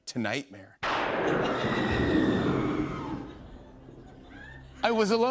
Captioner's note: thunder crashes, woman screams